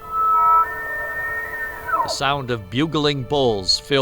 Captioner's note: elk bugles